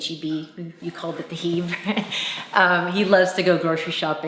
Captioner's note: mom laughs